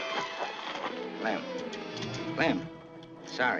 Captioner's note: slapping